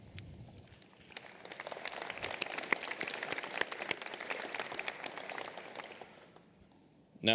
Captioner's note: applause